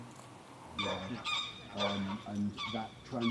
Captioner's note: geese honking